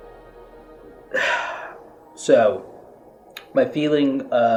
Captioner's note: sighs